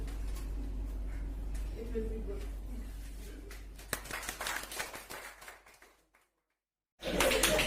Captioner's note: claps in the background